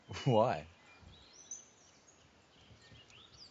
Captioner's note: none